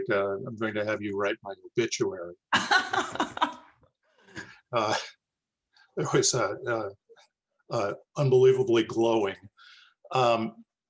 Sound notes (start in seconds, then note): 2.8 laughs